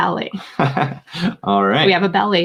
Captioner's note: laughs